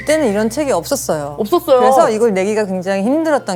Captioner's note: echo